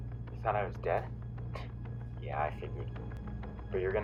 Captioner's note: scoffs